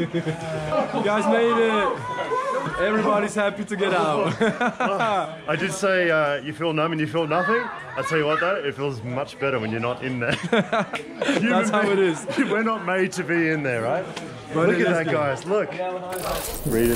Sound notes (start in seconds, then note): 4.7 laughing; 10.6 laughing